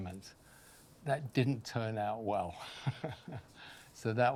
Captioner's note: chuckles